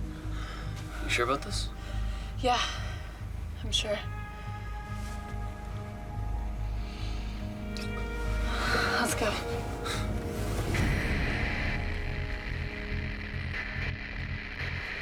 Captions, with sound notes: YOU SURE ABOUT THIS? YEAH. I'M SURE. LET'S GO. [radio static]